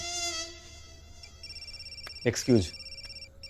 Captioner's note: Phone ringing